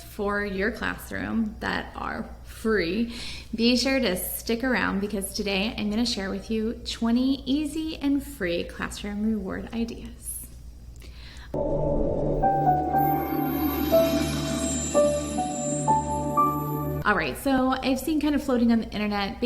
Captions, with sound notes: for your classroom that are free, be sure to stick around because today I'm gonna share with you 20 easy and free classroom reward ideas. (logo chiming) All right, so I've seen kind of floating on the internet